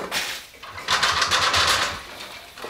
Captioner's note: rattling